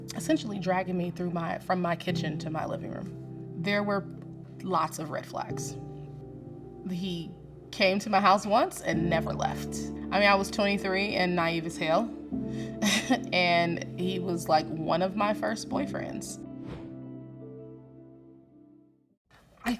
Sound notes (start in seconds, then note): 12.9 scoffs; 16.6 wind whooshes